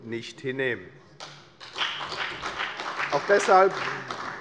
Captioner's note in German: Beifall bei der FDP und bei Abgeordneten der CDU